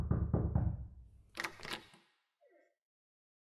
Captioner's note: knocking; door opening